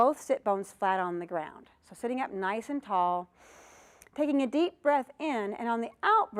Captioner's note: breath sound